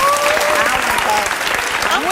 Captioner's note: audience applauds